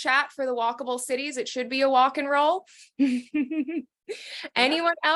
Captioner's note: laughing